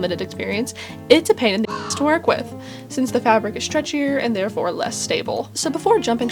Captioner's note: caw